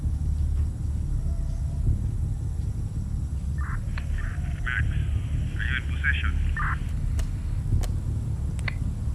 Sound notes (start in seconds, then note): 3.6 radio clicks